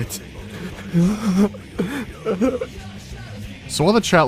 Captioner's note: terrified sobbing